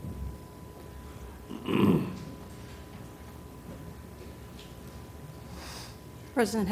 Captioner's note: cough